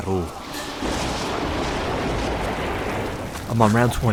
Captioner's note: thunder roars